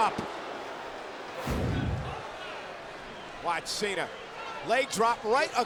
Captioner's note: graphics whooshing